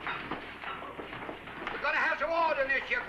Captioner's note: sound of bodies shuffling